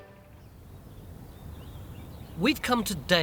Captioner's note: birds singing